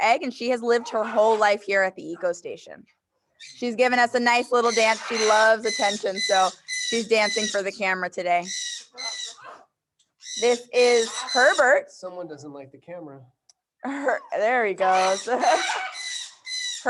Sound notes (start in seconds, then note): 8.8 parrots chirping; 14.6 parrots chirping